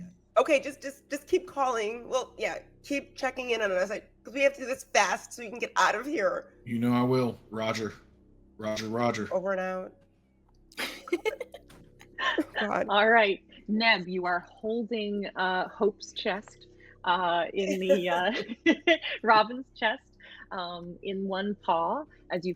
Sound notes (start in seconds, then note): 10.8 laughing; 17.6 laughs